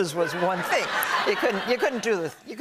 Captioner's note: laughter